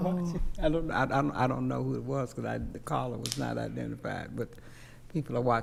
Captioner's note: stammering